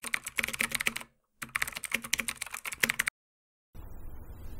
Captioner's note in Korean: 타자 소리